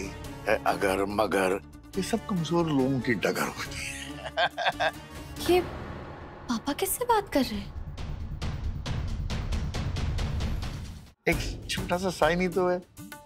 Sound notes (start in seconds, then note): 3.7 laughs